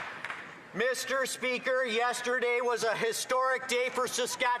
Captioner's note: applause